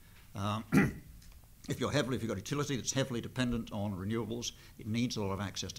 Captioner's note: cough